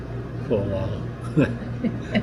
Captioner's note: laughter